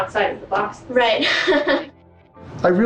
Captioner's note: laughs